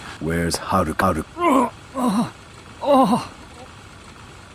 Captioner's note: pained grunts